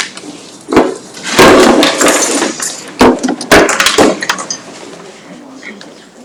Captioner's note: objects thudding